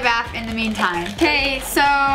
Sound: plastic bag rustles

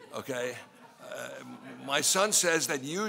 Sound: laughing

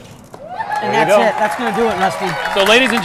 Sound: audience applauding and cheering

